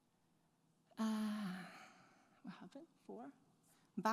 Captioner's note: sighs